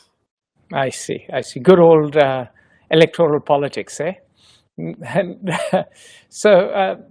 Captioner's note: chuckles